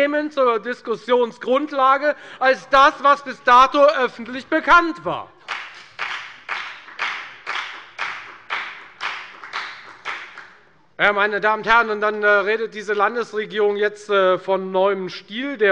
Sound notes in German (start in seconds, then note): 5.4 Beifall bei der FDP